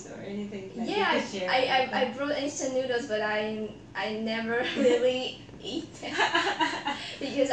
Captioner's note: laugh